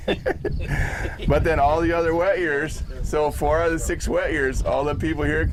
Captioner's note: laughing